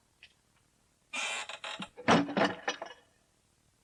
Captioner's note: SFX: door opening and closing